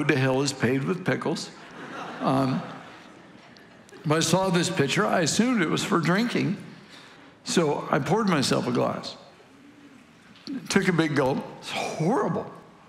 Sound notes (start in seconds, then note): 1.5 congregation laughing